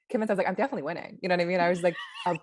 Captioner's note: laughs